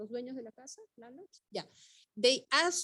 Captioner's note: speaking Spanish